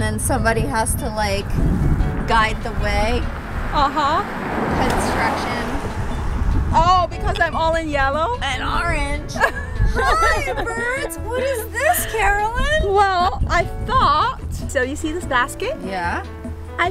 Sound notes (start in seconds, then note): 9.3 laughter